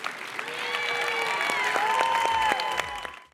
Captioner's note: cheers and applause